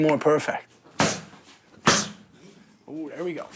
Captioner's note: strikes landing with a thud